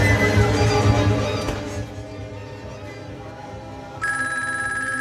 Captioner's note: door slams shut; phone rings